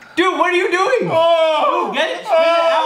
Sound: yells

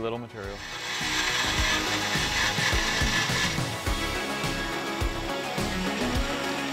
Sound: upbeat instrumental music; saw buzzing

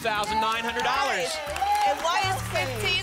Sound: applause

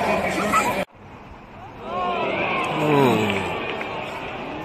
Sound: the crowd groans

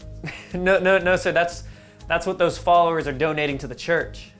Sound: laughs

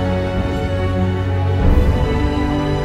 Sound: none

